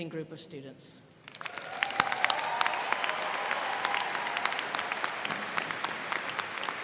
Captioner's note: crowd clapping; crowd cheering